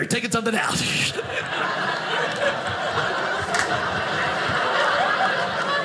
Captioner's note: audience laughing